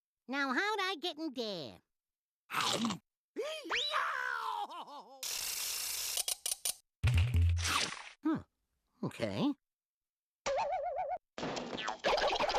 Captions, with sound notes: NOW, HOW DID I GET IN THERE? [screaming] HMM, OK.